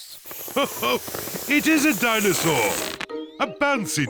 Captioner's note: laughs